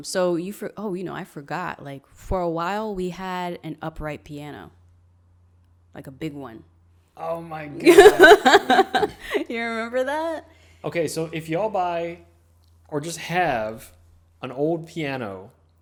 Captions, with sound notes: So I forgot, for a while, we had an upright piano. Like a big one. - Oh my god. (laughing) - You remember that? - Okay, so if y'all buy or just have an old piano,